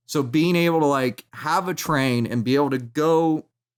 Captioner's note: none